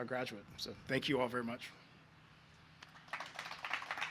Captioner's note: applause